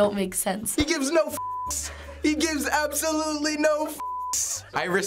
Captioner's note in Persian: صدای خندیدن